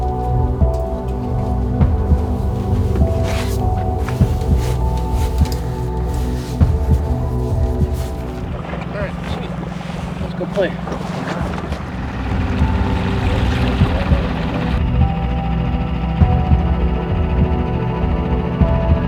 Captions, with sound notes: Alright, sweet. Lets go play. (dramatic music) (motor rattling)